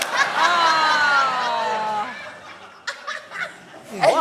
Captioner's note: laughs